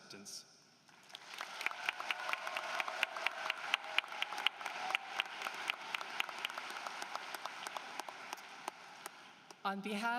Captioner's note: applause